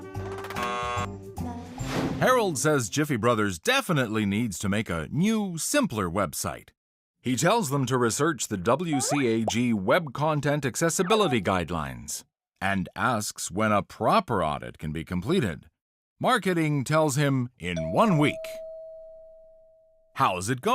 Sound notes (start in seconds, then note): 17.8 doorbell dings